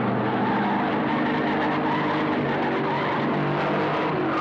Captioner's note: tires screeching